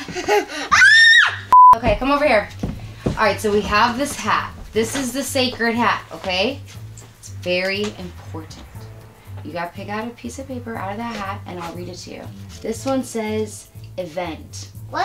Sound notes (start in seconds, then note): 0.7 screams